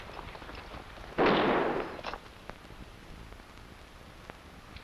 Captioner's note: gunshots blasting